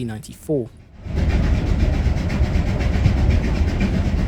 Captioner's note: puffing of a steam train